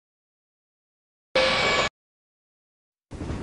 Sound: bip

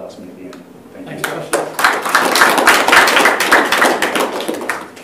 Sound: applause

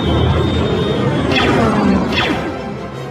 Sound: lasers fire

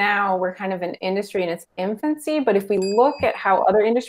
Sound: bell dings

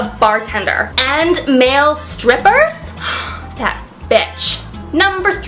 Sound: gasp

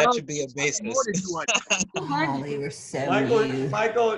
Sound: laughter

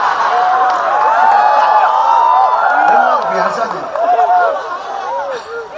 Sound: applause

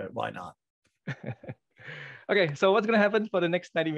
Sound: chuckles

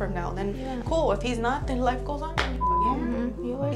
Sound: beep

